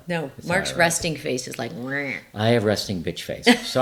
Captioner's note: growls